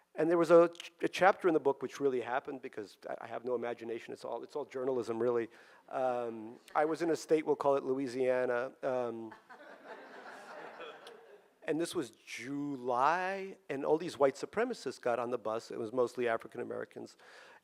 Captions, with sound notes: And there was a chapter in the book which really happened because I have no imagination, it's all journalism really. I was in a state, we'll call it Louisiana (audience laughing) and this was July and all these white supremacists got on the bus, it was mostly African-Americans